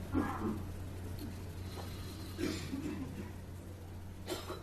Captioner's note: coughing